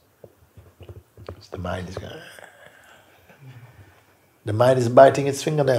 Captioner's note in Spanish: a gruñir